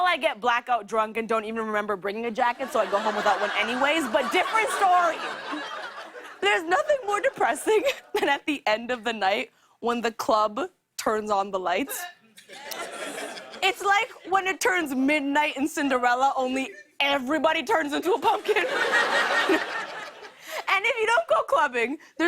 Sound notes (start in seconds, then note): 12.4 laughter; 18.4 laughter